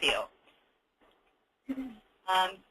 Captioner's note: laughs